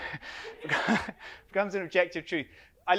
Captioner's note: audience laughs